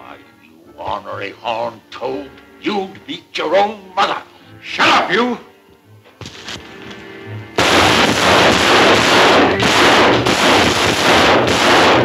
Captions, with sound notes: - Why you ornery hog toad, you'd beat your own mother! - Shut up, you! (gun bangs)